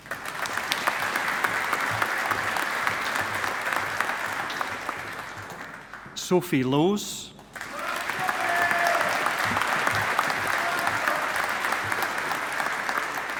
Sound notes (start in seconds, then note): 0.0 audience applauding; 7.5 audience applauding